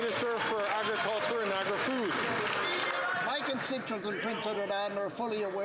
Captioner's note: some Applause